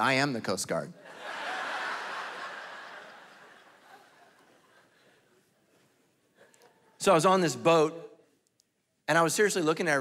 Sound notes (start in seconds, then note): 1.0 congregation laughing